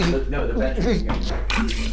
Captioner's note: Keith retching